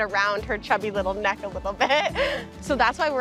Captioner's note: laughing